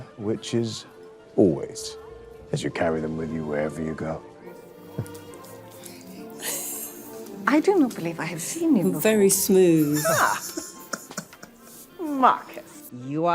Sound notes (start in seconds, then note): 4.8 classical music continues; 6.2 both laughing; 9.8 laughing